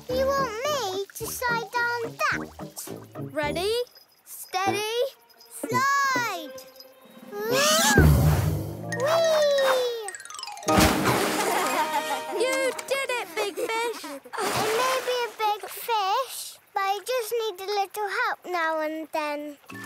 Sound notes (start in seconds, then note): 10.6 Olobobs laugh; 10.7 Big Fish splashes